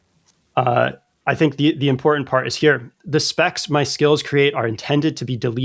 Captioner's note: uh